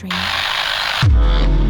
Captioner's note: TV signal buzzing; tense dramatic music